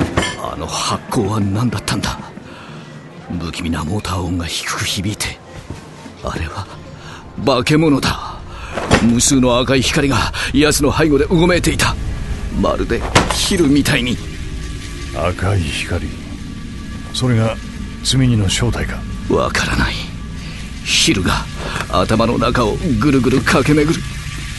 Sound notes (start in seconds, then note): 12.3 electrical sounds